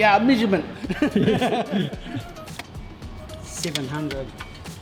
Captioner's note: mechanics laugh